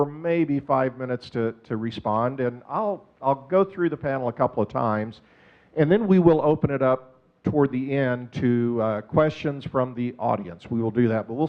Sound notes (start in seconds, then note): none